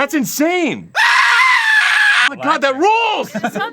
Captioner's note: royalty free man screaming